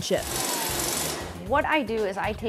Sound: power tool whining

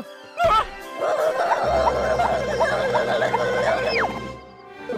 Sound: MUMMY is audibly dizzy, unrolling her body

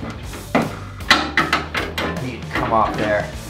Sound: clattering metal

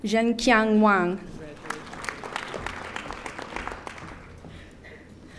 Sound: audience applauding

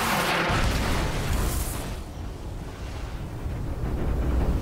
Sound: explosion

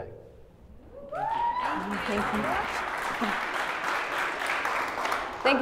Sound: applause

